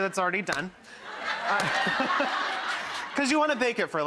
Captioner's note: laughing